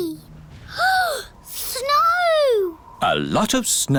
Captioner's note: gasps